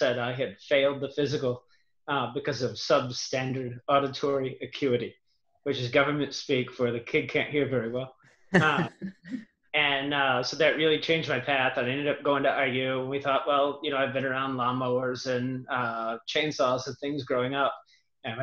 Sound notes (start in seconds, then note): 8.5 laughing